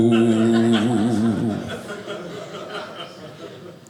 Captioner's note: audience laughing